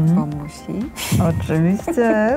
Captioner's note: laugh